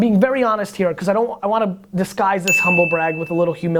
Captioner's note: bell